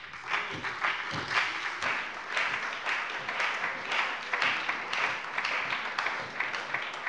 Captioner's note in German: Beifall bei der SPD, der LINKEN und der FDP